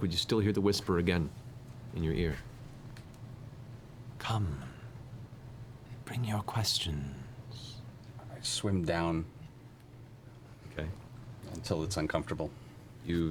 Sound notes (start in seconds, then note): none